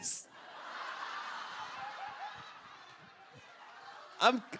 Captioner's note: audience Laughter